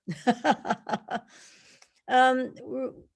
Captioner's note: laughing